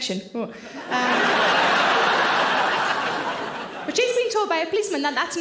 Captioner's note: audience laughing